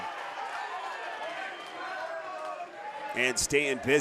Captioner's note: audience cheering